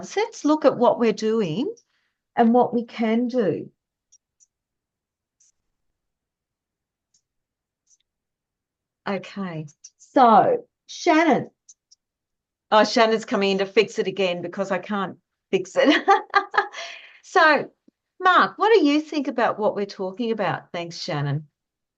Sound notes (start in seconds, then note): 15.7 laughs